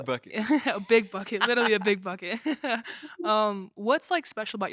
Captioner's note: all chuckling